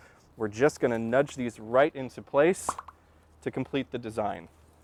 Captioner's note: pop, pop, pop